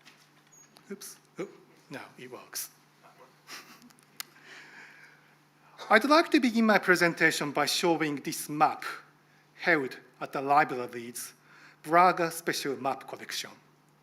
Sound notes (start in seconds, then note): 3.1 chuckles